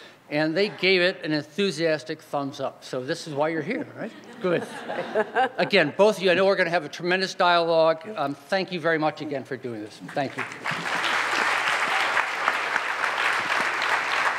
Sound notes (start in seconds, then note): 4.5 Chirlane laughs; 10.0 audience claps